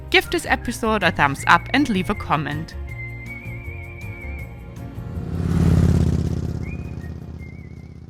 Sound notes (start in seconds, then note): 2.9 person whistling; 5.2 motorcycle roaring